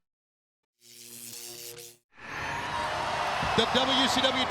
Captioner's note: electricity crackles